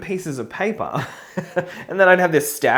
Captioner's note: laughs